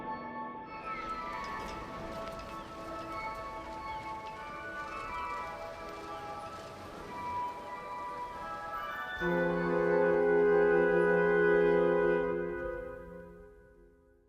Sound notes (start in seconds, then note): 4.4 people chattering; 4.4 suspenseful classical music